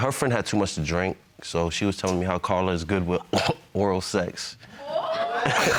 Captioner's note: coughs; chuckles